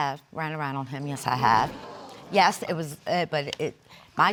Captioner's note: stuttering